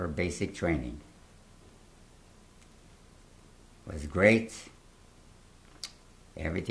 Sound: pauses for 3 seconds

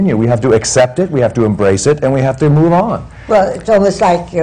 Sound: none

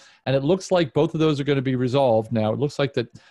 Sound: none

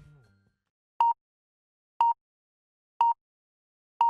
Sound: beeping

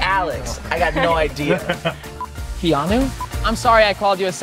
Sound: laughs

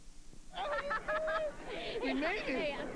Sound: laughing

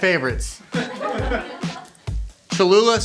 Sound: laughing

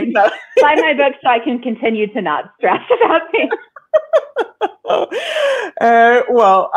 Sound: laughing

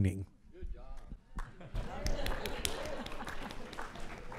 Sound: applause

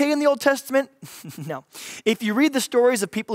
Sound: laughs

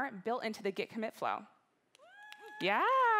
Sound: cheering

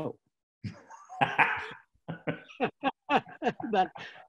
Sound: laughing

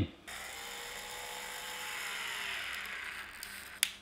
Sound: grinder whirring

